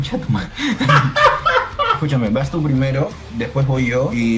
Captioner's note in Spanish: Risa del narrador